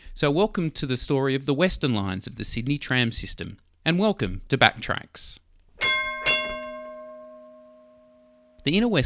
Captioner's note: tram bell